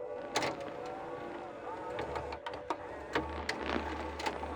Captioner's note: VCR whirring; videotape clicking